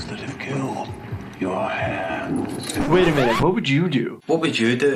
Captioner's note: none